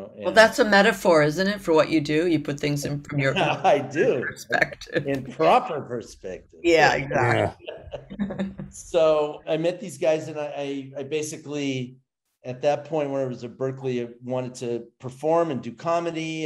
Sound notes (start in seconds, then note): 6.8 laughs